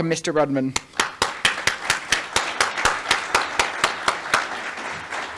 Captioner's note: applause